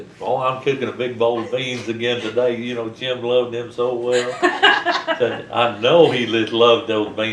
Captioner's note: laughter